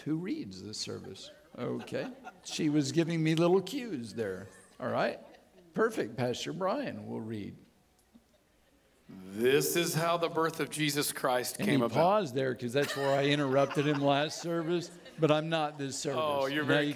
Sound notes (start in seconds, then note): 12.8 audience laughing